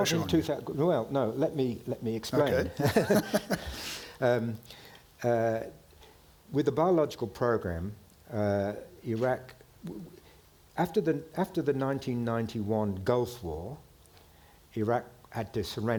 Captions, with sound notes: - Well, no, let me, let me explain. - Okay. (chuckles) - With the biological program, Iraq, after the 1991 Gulf War, Iraq had to surrender